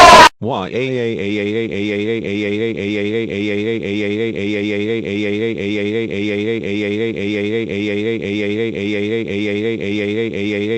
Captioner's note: crying